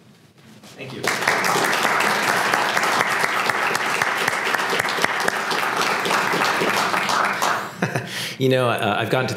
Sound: applause; laugh

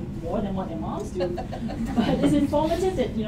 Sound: laughter

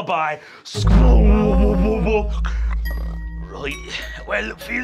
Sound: mimics chord twanging

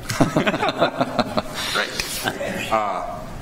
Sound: attendees chuckle

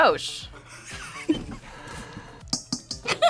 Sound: laughs

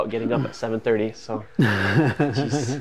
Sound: laughing

